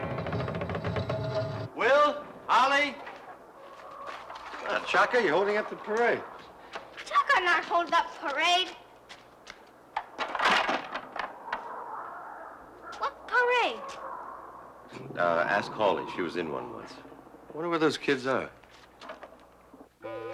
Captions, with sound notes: (door creaking) - Will? Holly? Come on, Cha-Ka, you're holding up the parade. - Cha-Ka not hold up parade. (sticks clattering) What parade? Ask Holly. She was in one once. I wonder where those kids are.